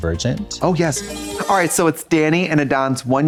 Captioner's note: bright chime